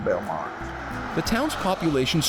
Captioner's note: engine roaring